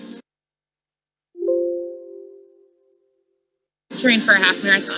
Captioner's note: soft beep